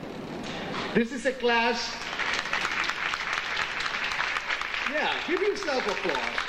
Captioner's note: audience applauding